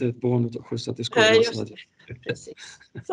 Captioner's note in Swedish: Skrattar